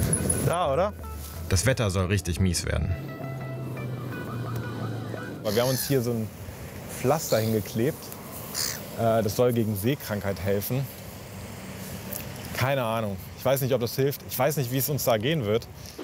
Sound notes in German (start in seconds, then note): 3.3 Leise Musik; 8.4 Möwenkrächzen